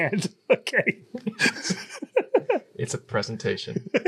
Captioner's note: laughs